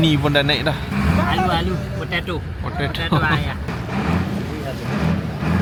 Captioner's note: laugh